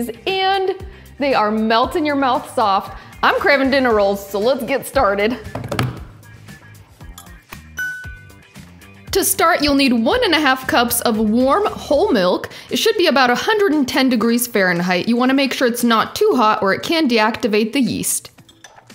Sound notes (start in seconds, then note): 5.5 hands tapping; 7.8 bell chimes